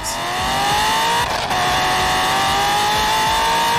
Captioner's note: Corvette C6 z06 revving